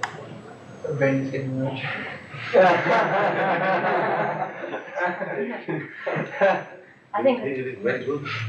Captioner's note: laughter